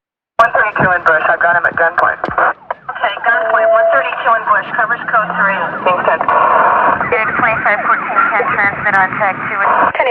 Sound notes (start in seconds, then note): 5.8 radio; 6.9 pice radio spatch